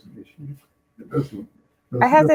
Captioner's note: laughing